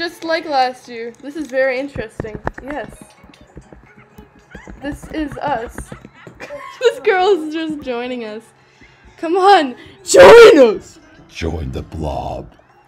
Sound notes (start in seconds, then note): 7.0 laughs